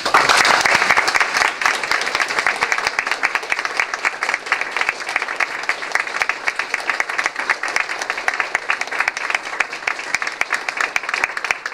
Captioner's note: applause